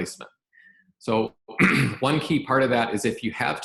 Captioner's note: clears throat